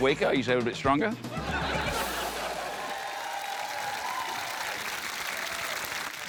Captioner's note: applause